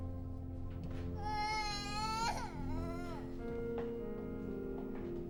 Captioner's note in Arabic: يستمر البكاء